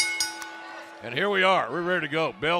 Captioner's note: bell ringing